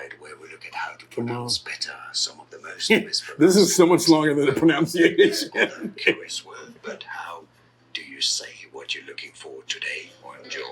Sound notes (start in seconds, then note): 4.4 laughing